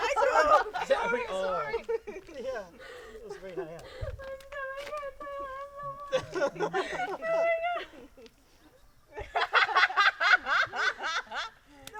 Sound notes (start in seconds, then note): 4.4 almost crying; 6.2 laughter; 9.2 laughter, hackeysack